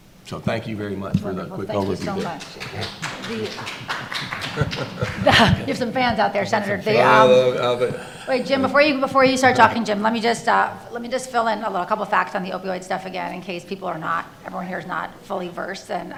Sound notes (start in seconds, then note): 3.2 audience applause; 4.5 laughing